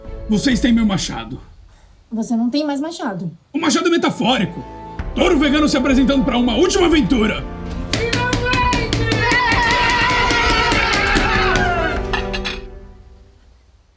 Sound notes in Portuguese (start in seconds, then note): 9.6 todos gritando e celebrando